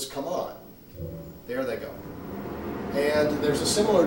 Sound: machine whirring

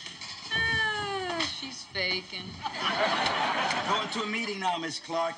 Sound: laughing

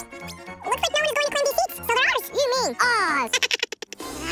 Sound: speaking fast forward

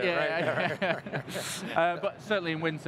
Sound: laughter

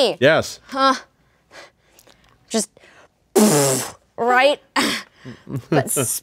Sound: spits

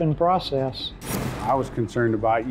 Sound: whooshing

